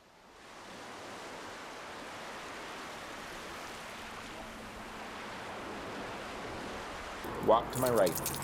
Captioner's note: gentle waves